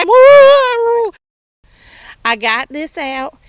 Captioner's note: screaming